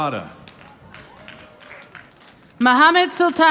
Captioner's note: audience applauding